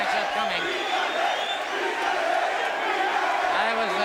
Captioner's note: crowd cheering